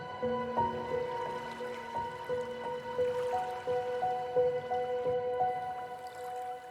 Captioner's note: water currents rustling